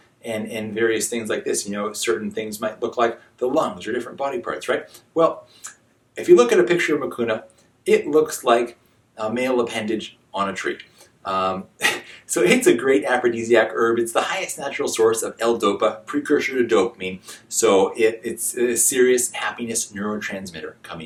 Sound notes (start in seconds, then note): 11.8 chuckles